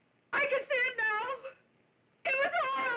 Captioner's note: sobbing